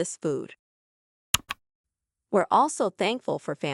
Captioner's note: click